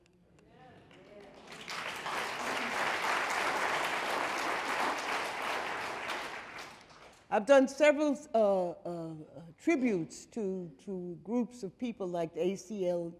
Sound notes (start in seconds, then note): 0.7 audience applauding